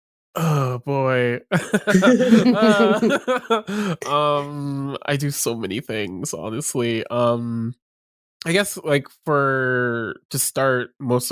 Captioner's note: laughter